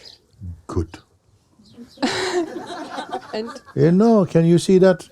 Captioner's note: laughter